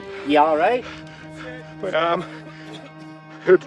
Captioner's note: Rusty panting